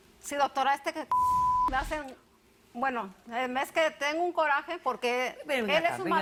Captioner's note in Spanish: Bip